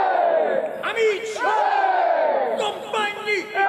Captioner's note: crowd cheers